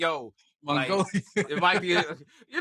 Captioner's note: laughing